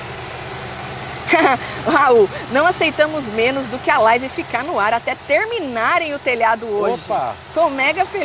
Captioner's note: chuckles